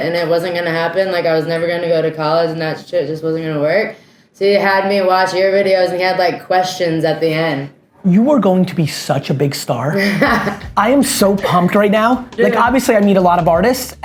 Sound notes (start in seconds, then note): 9.9 laughs